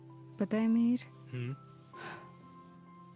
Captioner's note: sighs